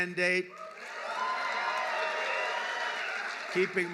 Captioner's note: applause